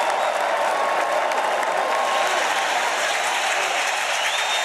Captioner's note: cheers and applause